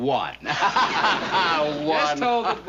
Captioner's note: laughter